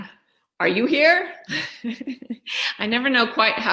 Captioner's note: laughs